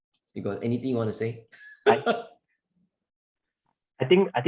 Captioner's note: laughs